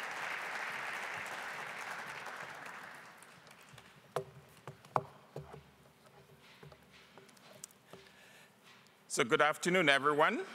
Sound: applause

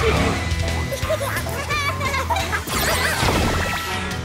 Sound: laughing

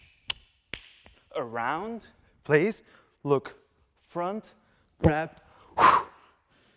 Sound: breathe out

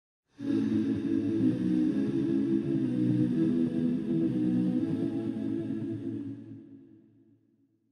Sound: humming

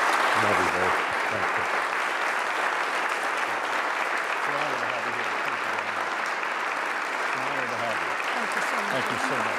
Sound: applause

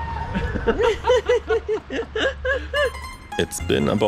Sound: chuckling

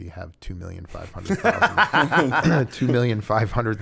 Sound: laughter

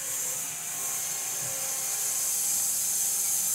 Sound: saw whirring

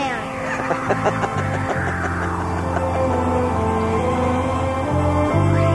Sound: Laughs in Betamax

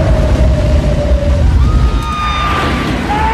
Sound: woman screams

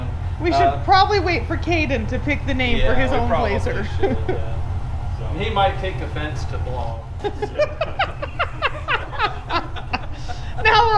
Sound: laughing

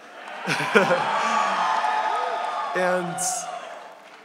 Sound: audience cheering

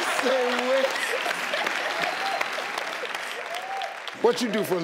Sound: audience cheering

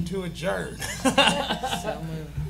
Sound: laughing

